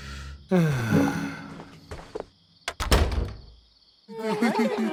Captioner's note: man sighs; door closes